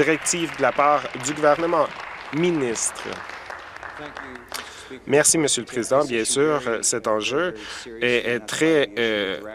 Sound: applause

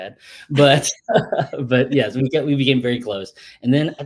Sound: laughs

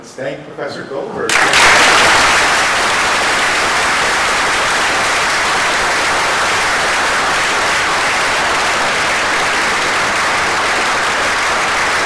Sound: applause

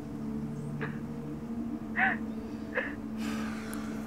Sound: Emily sobbing

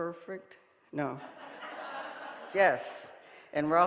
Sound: audience laughing

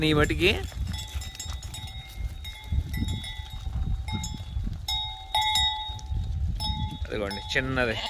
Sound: bell rings

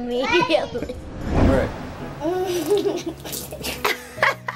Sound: laughing

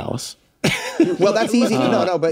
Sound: laughs

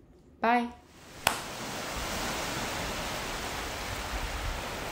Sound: waves crashing

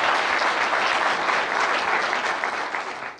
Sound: applause

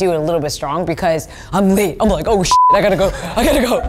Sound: beep

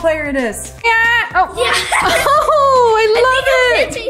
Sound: laughing

